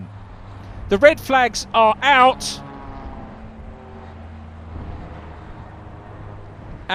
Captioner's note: car engines revving